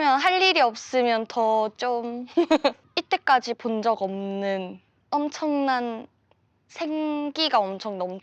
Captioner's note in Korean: 웃음